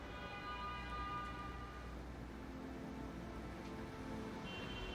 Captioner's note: car horn honking; dramatic orchestral music